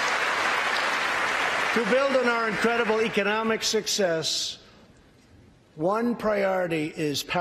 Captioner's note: applause